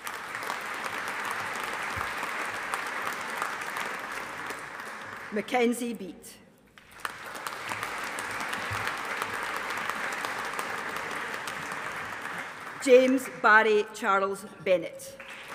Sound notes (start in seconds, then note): 0.0 audience applauding; 6.8 audience applauding